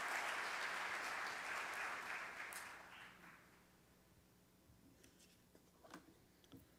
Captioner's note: applause